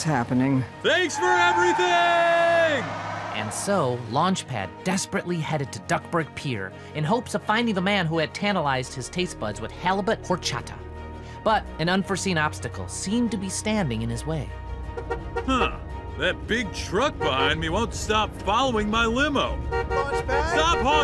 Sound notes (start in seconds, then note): 1.0 tires screech; 14.9 honking; 19.1 frantic honking